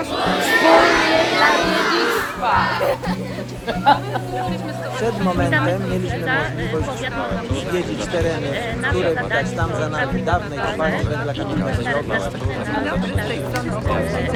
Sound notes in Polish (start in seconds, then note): 3.1 śmiech; 5.6 pogodna muzyka